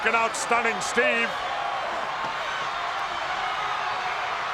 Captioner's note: crowd yelling